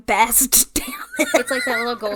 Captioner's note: wheeze laughs